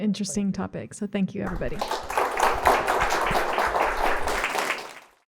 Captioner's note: audience applauds